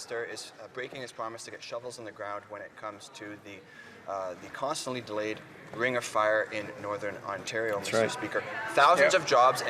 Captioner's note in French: voix de l'interprète